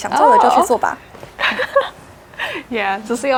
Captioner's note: chuckles